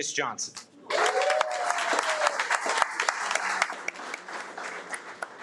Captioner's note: audience applauding